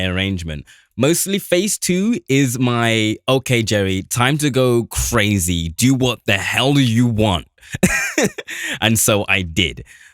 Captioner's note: laughs